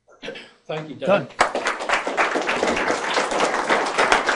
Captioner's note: clapping